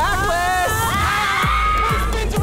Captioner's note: screaming